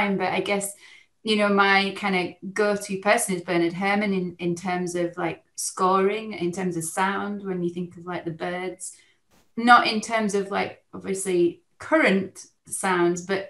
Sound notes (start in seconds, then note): none